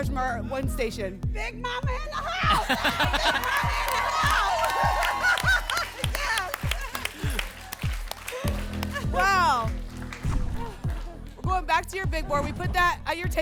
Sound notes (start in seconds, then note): 5.1 laughing; 7.1 applause and cheering